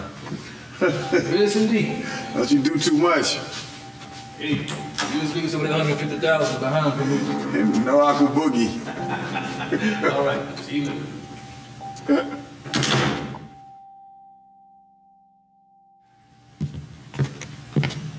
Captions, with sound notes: Yes, indeed. Don't you do too much. Hey, you just leave some of that 150,000 behind for me. And no aqua boogie. All right, see you later. (Door closing)